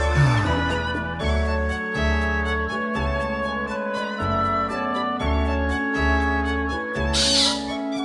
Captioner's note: sigh